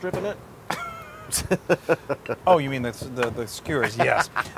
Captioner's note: laugh